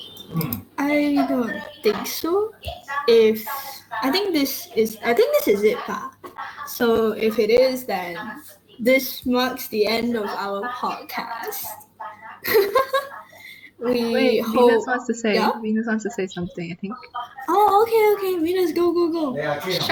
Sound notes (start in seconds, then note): 11.3 laughs